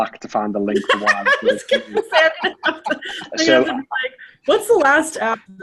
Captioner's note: laughing